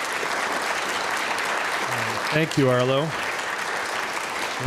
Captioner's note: applause